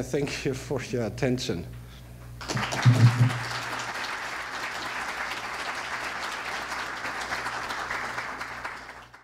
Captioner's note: applause